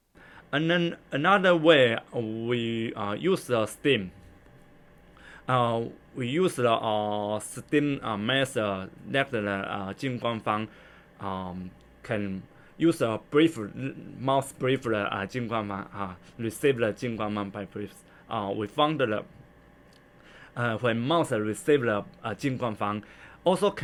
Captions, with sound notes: And then another way we use the steam. We use the steam method that Jing Guan Fang can be (breathed) by a mouse, receive Jing Guan Fang by (inhalation) We found that when mouse receive Jing Guan Fang also can